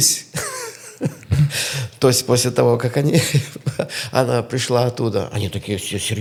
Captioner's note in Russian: смех